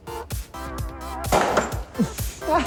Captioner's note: pop